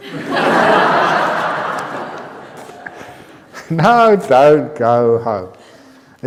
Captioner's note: laughter